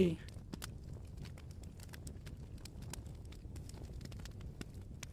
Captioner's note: fire crackling continues